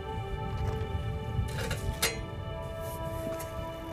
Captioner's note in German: Klappern